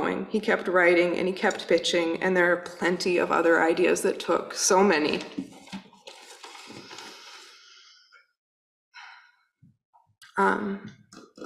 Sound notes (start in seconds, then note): 6.6 breathes deeply